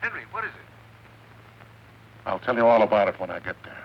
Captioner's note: on phone